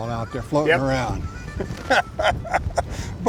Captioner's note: laughs